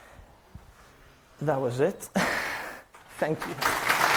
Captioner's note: chuckles; applause